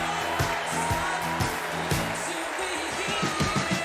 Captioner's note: applause